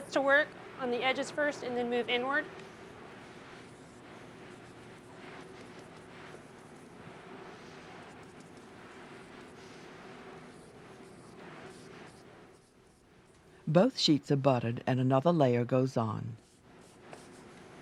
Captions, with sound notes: So this to work, on the edges first, and then move inward. - [Voiceover] Both sheets are buttered and another layer goes on.